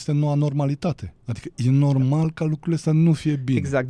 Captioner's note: none